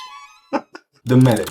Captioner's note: audible chuckle